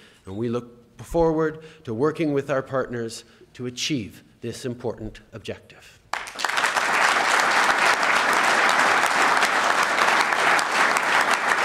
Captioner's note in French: Applaudissements